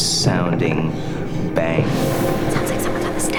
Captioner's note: footsteps